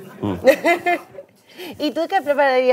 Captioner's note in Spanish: risas